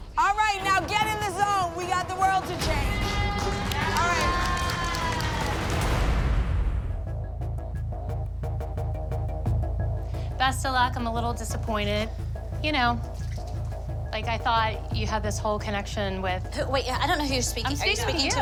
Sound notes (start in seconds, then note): 2.6 cheering